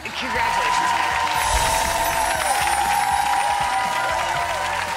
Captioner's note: audience clapping